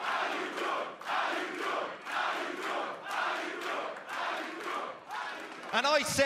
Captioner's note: cheers and applause; fans chanting